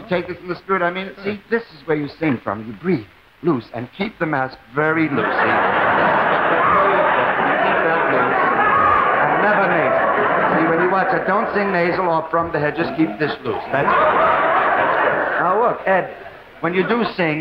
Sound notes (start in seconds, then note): 5.9 audience laughing; 13.6 audience laughing